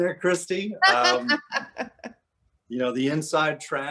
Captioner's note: laughing